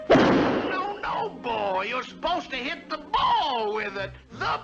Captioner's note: wham